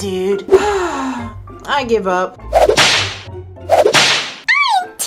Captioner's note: sighs